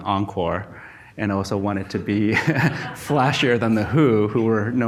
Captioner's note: laughs